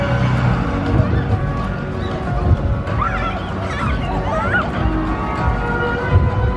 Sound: children squealing happily

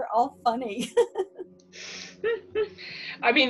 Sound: laughs

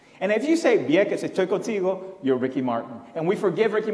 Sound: foreign language

